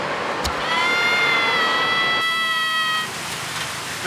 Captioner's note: screaming